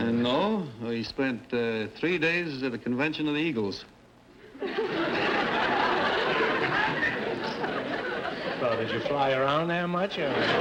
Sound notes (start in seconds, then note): 4.5 audience laughter